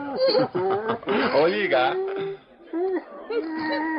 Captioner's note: speaking chinese